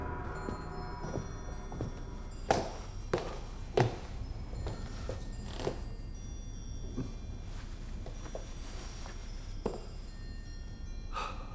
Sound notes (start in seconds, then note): 9.4 sighs